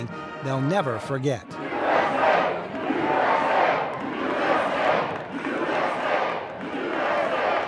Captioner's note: crowds cheering, music playing, people chanting USA